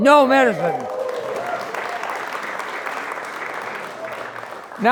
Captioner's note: crowd applauding